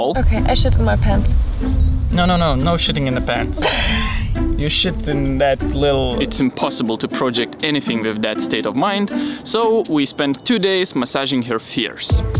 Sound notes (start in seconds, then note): 3.6 laughs